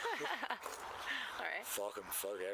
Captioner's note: laughter